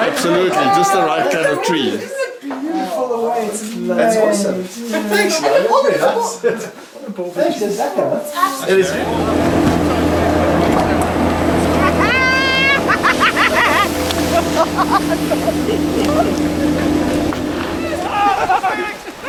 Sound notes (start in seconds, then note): 11.7 maniacal laughing